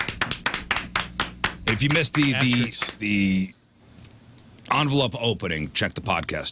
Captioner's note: clapping